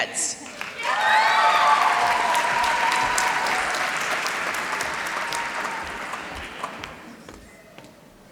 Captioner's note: applause